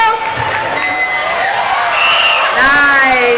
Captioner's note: dinging